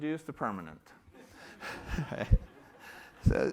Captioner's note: laughter